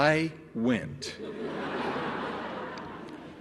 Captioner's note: laughter